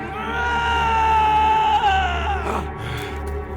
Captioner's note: yelling